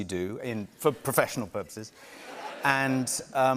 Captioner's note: laughter